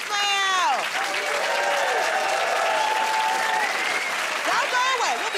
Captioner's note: cheers and applause